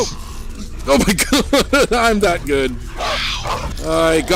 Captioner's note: laughing